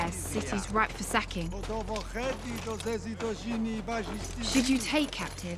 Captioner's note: continuing in Valyrian